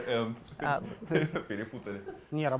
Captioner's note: laugh